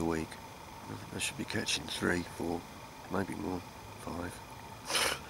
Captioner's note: laughs